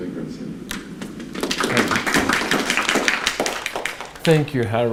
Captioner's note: applause